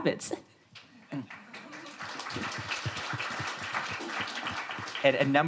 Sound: audience applauds

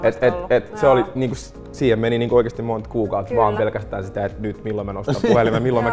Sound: chuckles

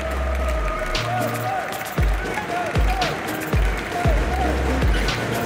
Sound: audience bawls; audience shouts "U-S-A, U-S-A"; audience stomps with their feet on the metal stands

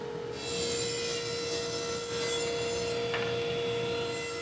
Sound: table saw buzzing

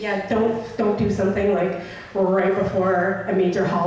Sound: voiceover

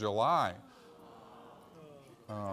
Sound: audience Sighing

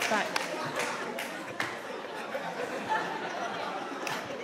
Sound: audience laughing

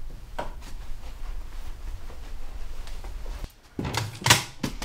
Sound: picture clattering

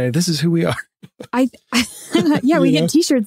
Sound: laughing

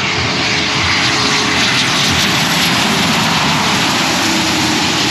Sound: plane engine roaring

